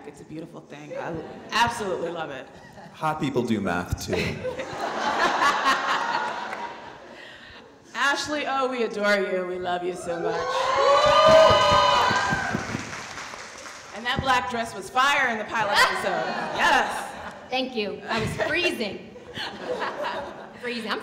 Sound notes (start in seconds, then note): 4.1 audience laughing; 10.1 audience cheering